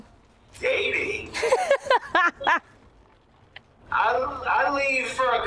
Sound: laughs

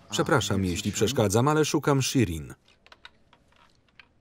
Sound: phone beeps

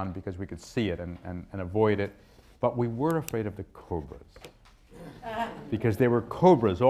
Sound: laughter

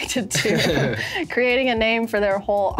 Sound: everyone laughs

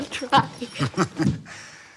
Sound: chuckles

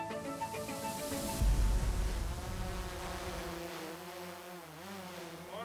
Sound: drone propellers buzzing

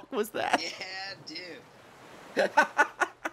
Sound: laughs

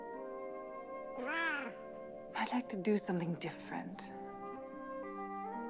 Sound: meows

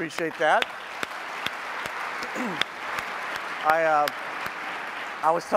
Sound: applause

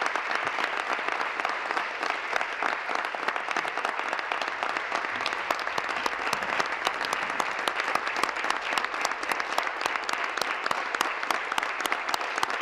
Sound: applause

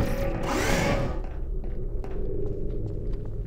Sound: footsteps; door whirs

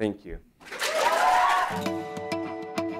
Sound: applause

